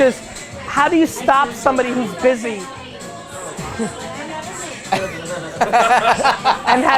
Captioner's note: group laughter